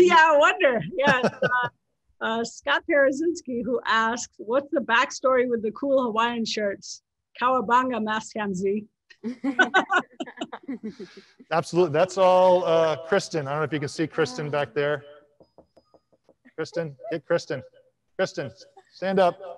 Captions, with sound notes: - Yeah I wonder, Scott Parazynski who asks, "What's the backstory with the cool Hawaiian shirts? Cowabunga Mastcam-Z." (panelists laughing) - Absolutely, that's all Kristen. I don't know if you can see Kristen back there. (glass knocking) Kristen, hey Kristen, Kristen stand up, stand up,